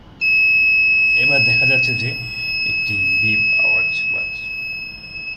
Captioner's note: long beep